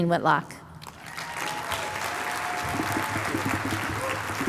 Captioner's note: applause